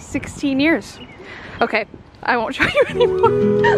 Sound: start laughing mid sentence

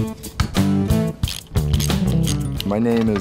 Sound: ratcheting

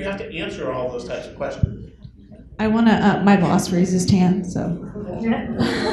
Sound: laughter

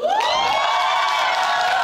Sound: audience cheering

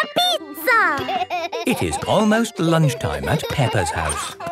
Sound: laughing

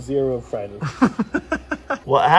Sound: laughs

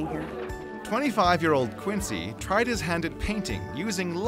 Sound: voiceover

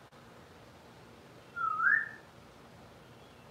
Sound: whistling

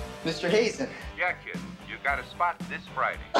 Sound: on phone

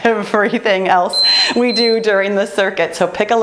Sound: timer beeps

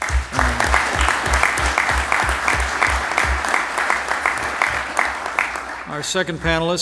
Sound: applause

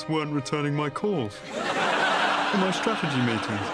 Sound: audience laughs

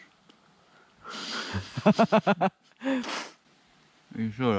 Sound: laughing

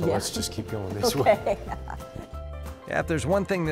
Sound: laughter

